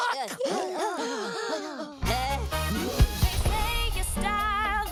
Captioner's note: minions gasping